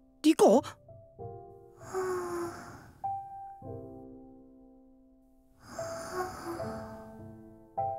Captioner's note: light snoring